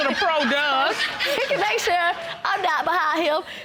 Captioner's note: audience laughing